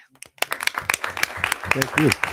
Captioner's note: audience applauding